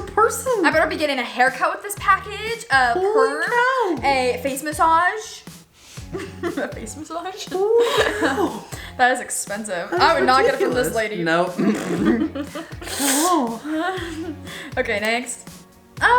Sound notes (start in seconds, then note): 7.6 laughs; 11.5 both laughing